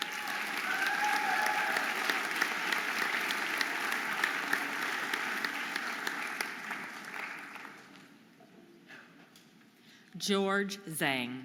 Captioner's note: audience applauding and cheering